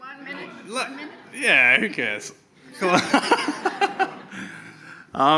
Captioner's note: laughs